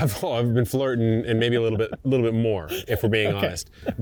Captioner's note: chuckling